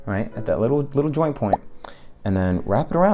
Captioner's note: bubble pop sound effect